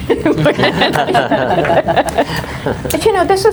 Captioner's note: everyone laughs